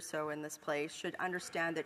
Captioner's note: speaking French